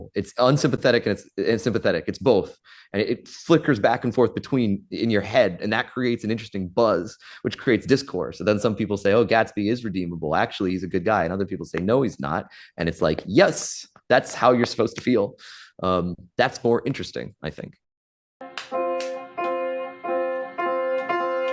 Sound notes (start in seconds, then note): 18.5 someone claps off-screen